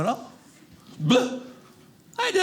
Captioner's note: vomit